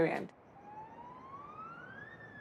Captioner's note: ambulance siren